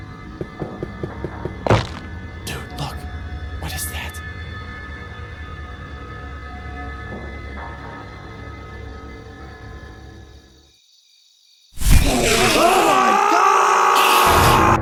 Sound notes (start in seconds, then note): 2.8 whispering; 11.8 Enderman screeches; 11.8 both scream